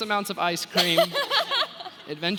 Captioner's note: laughing